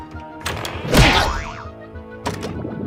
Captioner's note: boing!